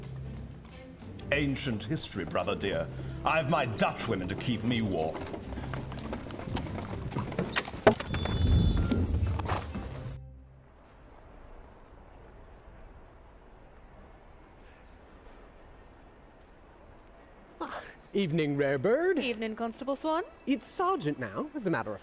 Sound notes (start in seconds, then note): 8.8 carriage pulls up; 18.8 Nighttime sounds of London